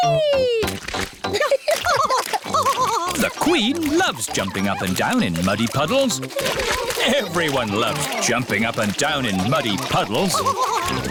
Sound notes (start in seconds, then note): 1.9 both laughing